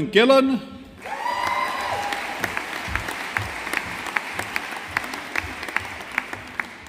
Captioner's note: audience applauding